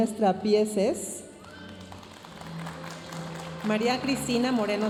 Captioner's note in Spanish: aplausos de la audiencia